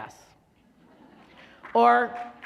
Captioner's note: laughter; applause